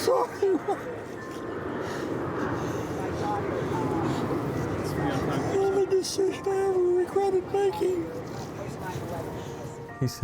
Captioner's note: sobbing